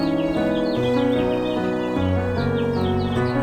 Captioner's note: upbeat orchestral music; birds chirping